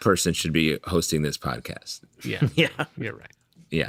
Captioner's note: laughter